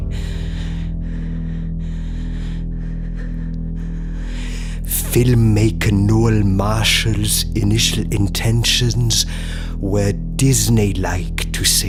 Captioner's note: heavy breathing